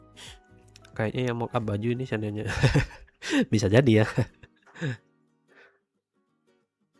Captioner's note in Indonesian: tertawa